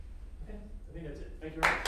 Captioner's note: applause